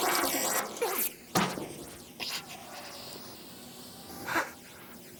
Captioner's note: breathing heavily